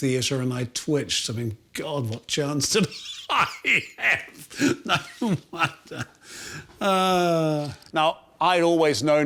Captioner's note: laughs